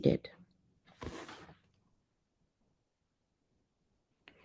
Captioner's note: paper Rustling